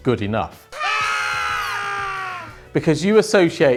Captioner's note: men screaming